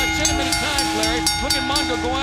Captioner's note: bell ringing